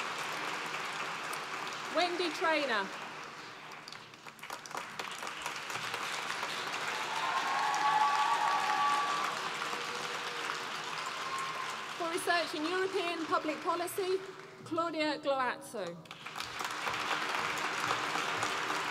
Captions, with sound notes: Wendy Traynor. (APPLAUSE) For research in European Public Policy, Claudia Gloazzo. (APPLAUSE)